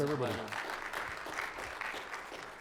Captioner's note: audience applauding